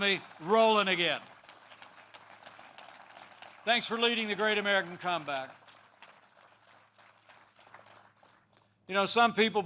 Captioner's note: applause